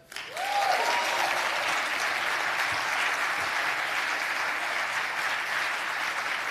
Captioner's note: audience applause